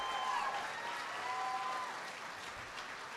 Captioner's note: applause